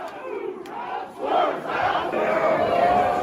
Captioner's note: crowd chants